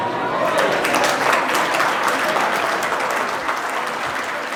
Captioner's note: audience applauding